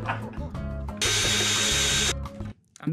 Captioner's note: risas